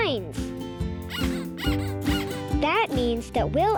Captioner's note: bunny squeaking